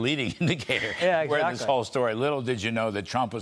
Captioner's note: laughter